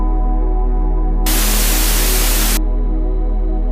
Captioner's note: tv static